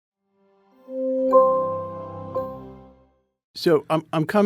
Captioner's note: logo chiming